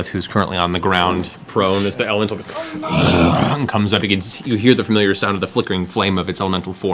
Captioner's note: roar